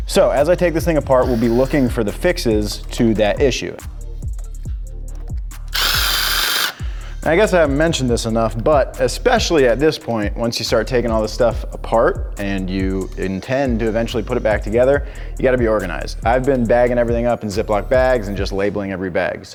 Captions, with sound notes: So as I take this thing apart we'll be looking for the fixes to that issue. (driller drilling) I guess I have mentioned this enough, but especially at this point, once you start taking all this stuff apart and you intend to eventually put it back together you gotta be organized. I've been bagging everything up and Ziploc bags and just labeling every bag.